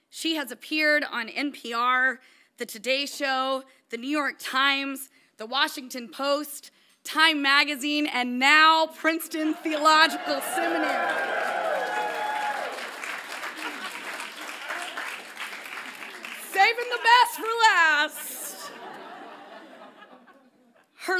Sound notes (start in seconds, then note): 11.1 audience applauds; 18.7 audience laughs lightly